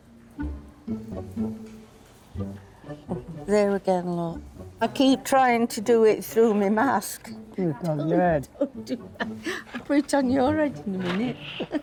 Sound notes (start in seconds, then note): 0.3 playful music; 9.2 chuckles; 11.6 playful music